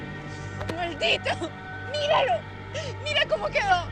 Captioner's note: speaking spanish